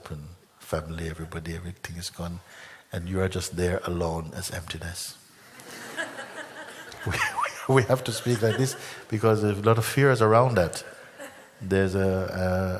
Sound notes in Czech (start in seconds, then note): 5.5 smích